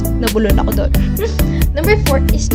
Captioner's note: laughs